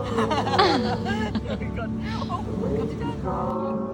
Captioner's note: laughs